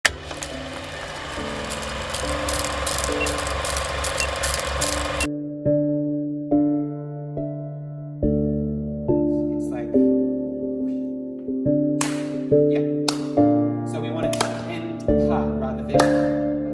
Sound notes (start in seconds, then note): 0.1 camera whirring; 12.0 clap